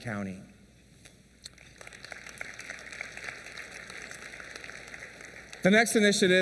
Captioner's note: applause